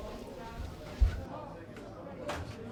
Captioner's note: bar room chatter